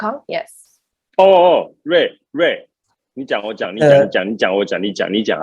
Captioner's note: in Mandarin: you speak, I speak, you speak, you speak ok